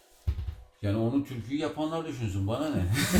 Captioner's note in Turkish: Kahkaha sesleri